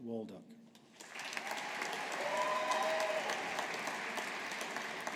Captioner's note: audience applauding